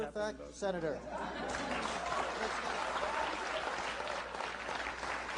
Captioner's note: laughter, applause